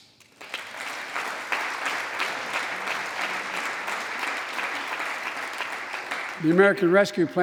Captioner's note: applause